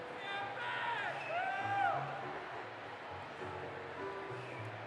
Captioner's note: audience cheering